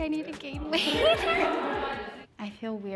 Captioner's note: all laughing